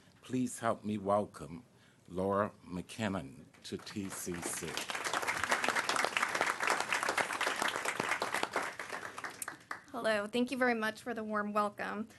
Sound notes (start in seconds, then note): 7.1 applause